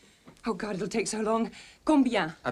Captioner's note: speaking french